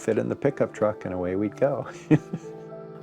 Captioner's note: chuckles